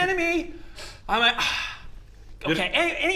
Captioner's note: sigh